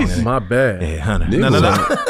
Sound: laughs

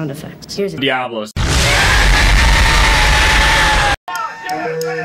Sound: diablos sound effect

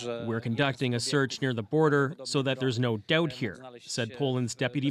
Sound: speaking alternate language

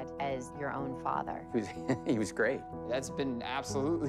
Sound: chuckles

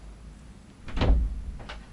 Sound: door open

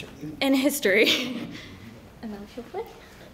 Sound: laughs

